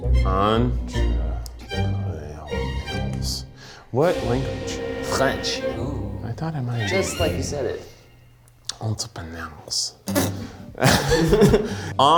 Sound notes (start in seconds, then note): 0.5 with French accent; 3.9 regular voice; 8.9 with French accent; 10.8 group laughs